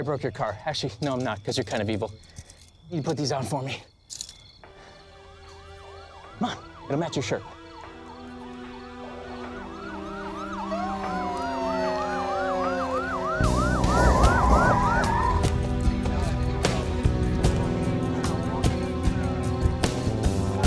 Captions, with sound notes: Actually not, because you're kind of evil. Put these on. [POLICE CAR SIRENS] Come on. It'll match your shirt. [POLICE RADIOS SOUND OFF]